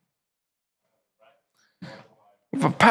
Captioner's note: audience member speaking from distance